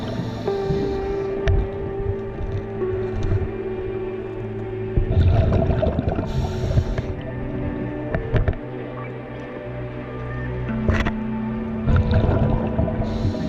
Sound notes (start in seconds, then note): 8.1 underwater sounds continue